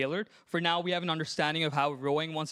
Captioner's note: none